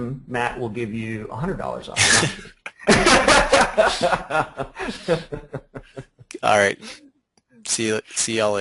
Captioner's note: laughter